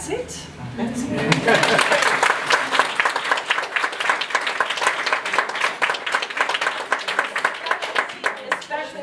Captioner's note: clapping